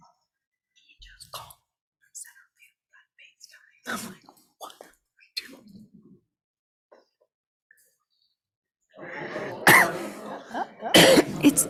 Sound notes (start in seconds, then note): 1.4 board member continues faintly; 9.0 people chattering